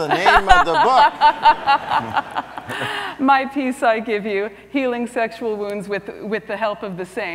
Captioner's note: laughs